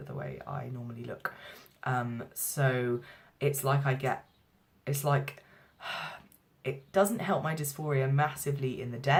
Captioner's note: sigh